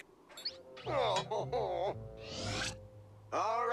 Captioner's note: sobbing